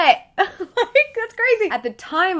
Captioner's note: laughs